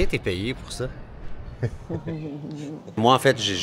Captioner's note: laughs